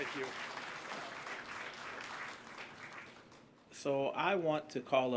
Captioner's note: applause